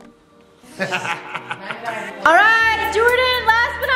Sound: laughing

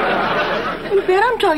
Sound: audience laughing

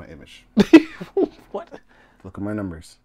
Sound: laughing

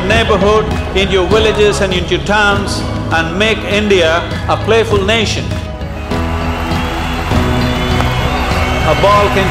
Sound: cheers and Applause

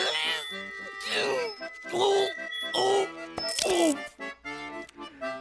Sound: groaning

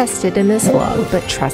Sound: dog howling

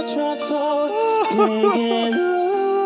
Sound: sobbing

